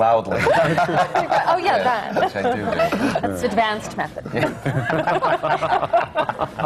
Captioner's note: laughter